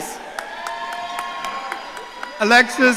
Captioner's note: audience cheering